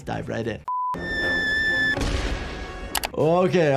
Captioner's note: loud shriek